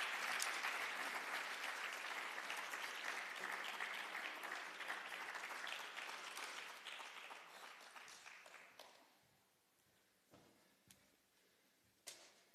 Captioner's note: applause